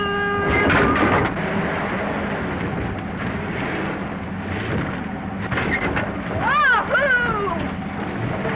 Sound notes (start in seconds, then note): 0.3 trailer clatters; 1.9 car rumbles; 5.0 trailer clatters; 8.0 car rumbles